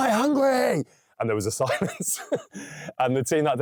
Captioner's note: laughing